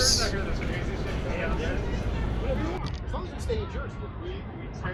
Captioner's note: people chattering